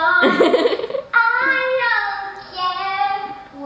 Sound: laughing

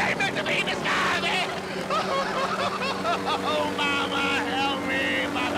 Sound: crying

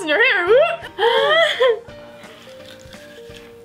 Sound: laughs

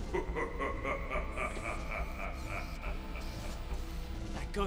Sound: sinister laughing

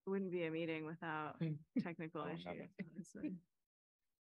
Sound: laughter

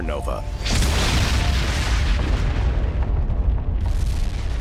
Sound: explosion

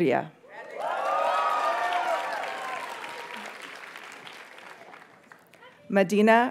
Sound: audience cheers and applauds

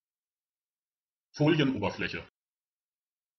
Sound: fast Pronunciation

